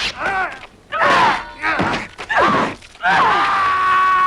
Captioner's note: Hundra grunts; both grunting; man shouting